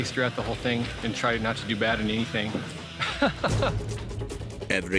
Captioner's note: laughing